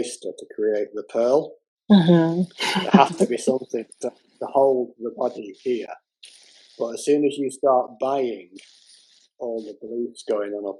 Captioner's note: laughter